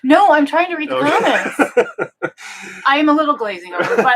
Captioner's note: laughing